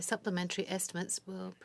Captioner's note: speaking French